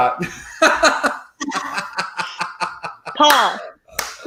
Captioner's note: laughs